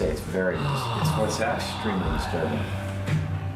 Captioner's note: sighs